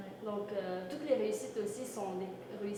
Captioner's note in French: none